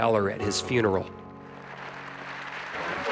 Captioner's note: applause